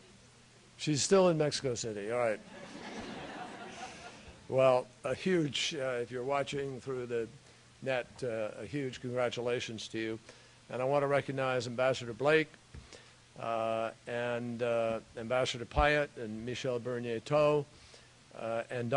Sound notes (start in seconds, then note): 2.4 laughter